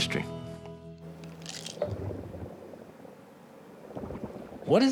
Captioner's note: rumbling sound